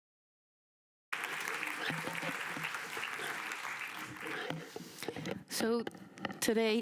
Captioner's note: applause